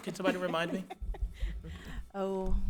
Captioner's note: members laugh